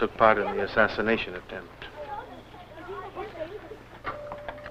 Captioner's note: indistinct chatter